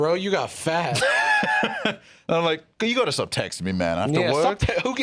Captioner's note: laughs